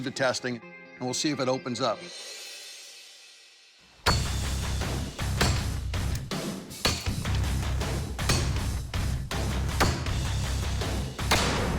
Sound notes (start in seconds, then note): 4.0 chopping